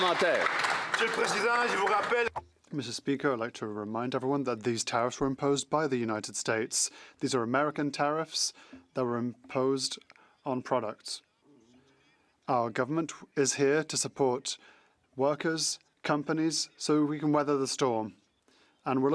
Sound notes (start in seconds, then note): 2.2 some Applause; 4.9 speaking French